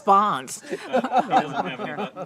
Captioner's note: laughs